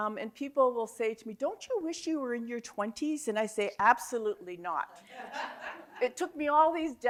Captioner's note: audience Laughter